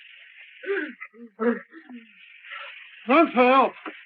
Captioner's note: Partridge gasps